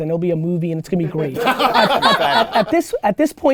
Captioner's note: group laughter